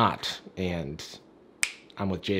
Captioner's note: finger snaps